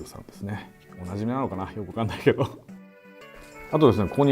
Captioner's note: laughing